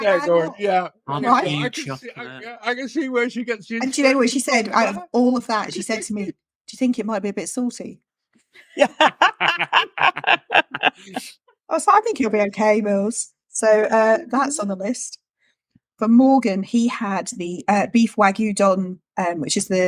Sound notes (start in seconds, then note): 8.7 laughing